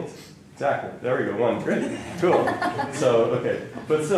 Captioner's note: laughter